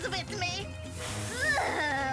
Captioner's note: breath sizzling